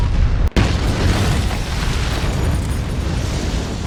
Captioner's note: loud rumbling; explosion; loud rumbling